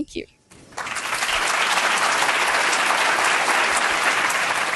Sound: audience clapping

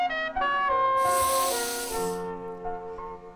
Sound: inhales deeply

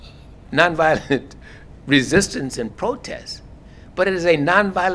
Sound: laugh

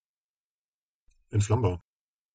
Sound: fast Pronunciation

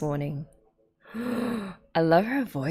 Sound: gasps

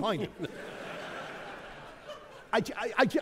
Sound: audience laughing

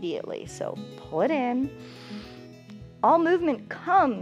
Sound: inhales

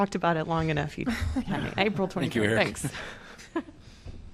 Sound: laughter

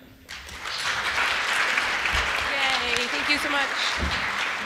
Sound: applause

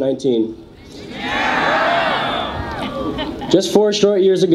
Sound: audience cheers

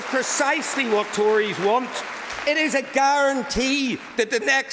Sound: applause

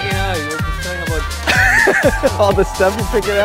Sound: laughs

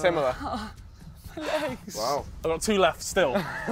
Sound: groaning

